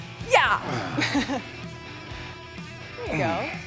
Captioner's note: chuckles